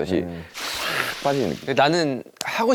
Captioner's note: whoosh